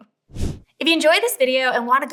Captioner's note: swoosh